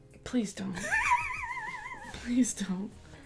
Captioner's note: laughter